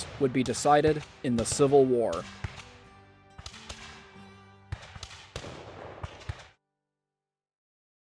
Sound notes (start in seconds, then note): 4.6 random gunfire